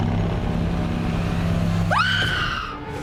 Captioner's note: shriek